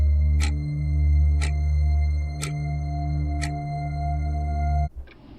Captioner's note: clock ticking continues; eerie gentle music continues; clock ticking